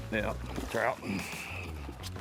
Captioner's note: pat